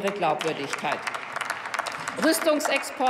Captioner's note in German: Applaus